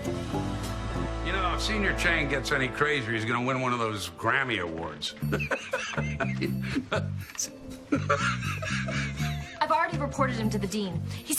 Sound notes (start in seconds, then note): 5.2 laughing